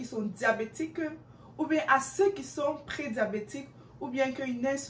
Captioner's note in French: french